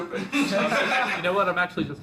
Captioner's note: laughs